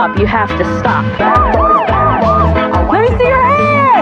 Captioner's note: siren